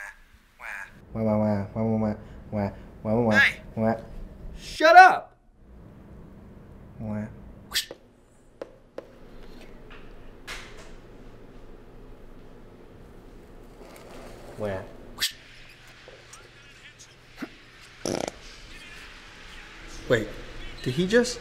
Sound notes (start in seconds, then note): 18.0 grunts, farts